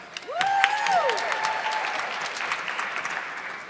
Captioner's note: audience clapping